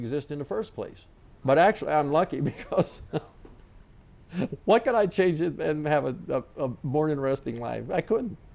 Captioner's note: laughing